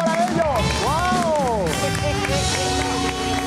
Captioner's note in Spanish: Aplausos